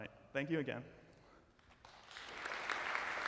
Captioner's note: applause